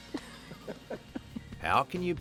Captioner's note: laughter